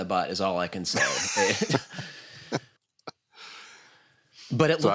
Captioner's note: chuckles